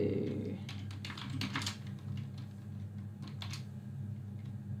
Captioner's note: keyboard clicks